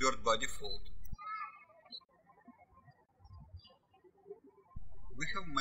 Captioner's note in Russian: птички щебечут